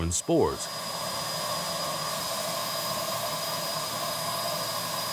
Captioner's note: vacuum continues to whir